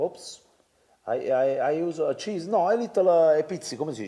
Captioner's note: speaks Italian